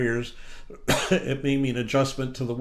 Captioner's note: coughs